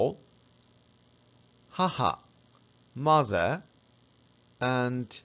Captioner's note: haha